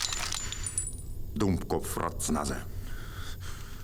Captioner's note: German language